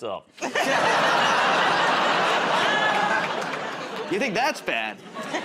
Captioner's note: laughter